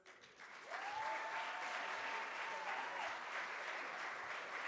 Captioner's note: audience applauds